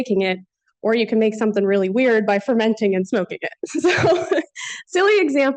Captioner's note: laughs